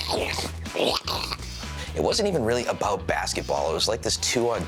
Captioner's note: mimics backboard breaking